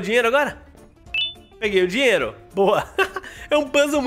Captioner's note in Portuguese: risos